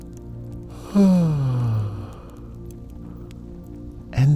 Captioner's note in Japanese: あくび